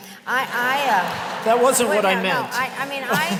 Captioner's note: laughter